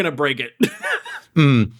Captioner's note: wheeze